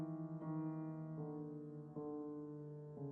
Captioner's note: none